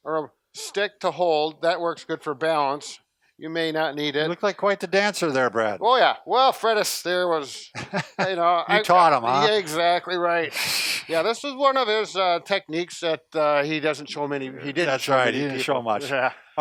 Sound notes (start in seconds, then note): 10.6 laughs